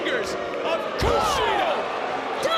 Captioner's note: audience booing